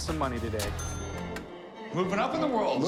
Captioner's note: cash register dings